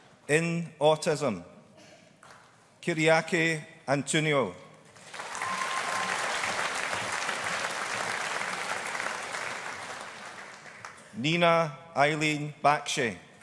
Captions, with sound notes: In Autism, Kyriaki Antoniou. (AUDIENCE APPLAUDING) Neena Eileen Bakshi.